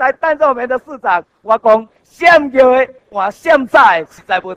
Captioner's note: in Taiwanese